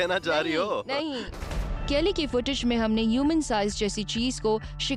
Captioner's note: narrating